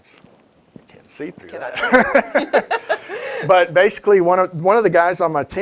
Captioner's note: laughs